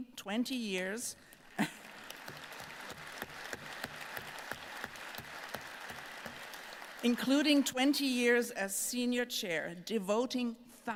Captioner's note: applause